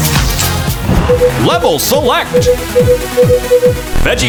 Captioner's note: beeping